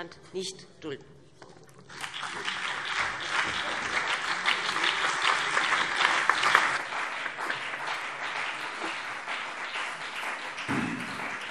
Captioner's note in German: Beifall BÜNDNIS 90/DIE GRÜNEN und CDU